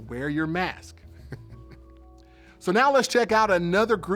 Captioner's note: laughs